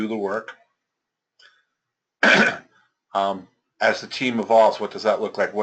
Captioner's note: cough